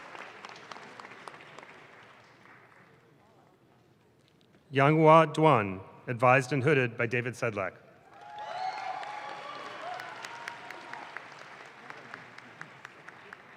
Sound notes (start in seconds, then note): 8.0 audience claps